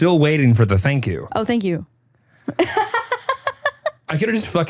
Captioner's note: laughs